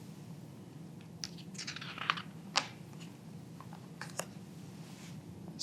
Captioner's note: pages rustling